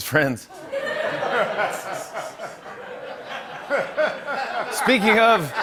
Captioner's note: laughter